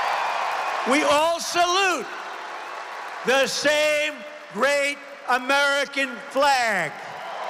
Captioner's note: applause